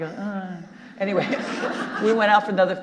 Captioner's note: audience laughing